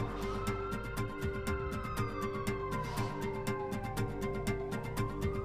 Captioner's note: siren wailing in the distance